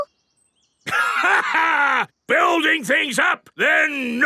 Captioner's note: laughs